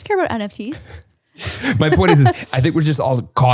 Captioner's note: laughs